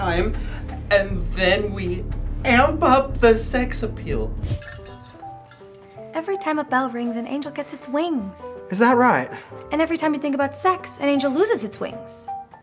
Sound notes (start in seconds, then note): 4.5 christmasy music; 4.6 bell tinkles